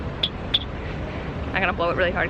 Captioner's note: whistle chirps